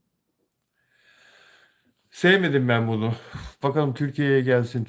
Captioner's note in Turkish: iç çeker